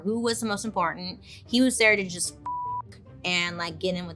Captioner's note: beeps